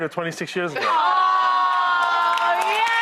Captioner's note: applause